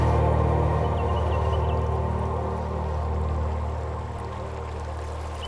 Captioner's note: bird chirping; water gurgling